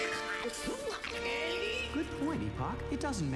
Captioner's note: babbling